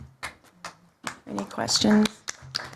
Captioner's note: applause